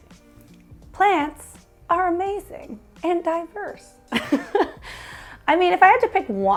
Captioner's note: laughs